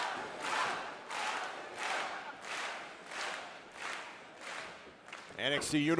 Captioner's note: fans chanting